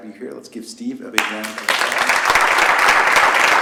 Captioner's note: applause